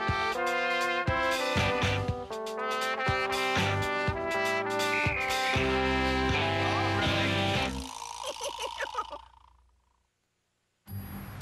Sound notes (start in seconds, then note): 6.5 whistle blowing; 9.8 giggling